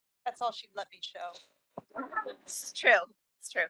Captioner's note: laughing